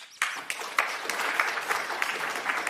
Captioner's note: applause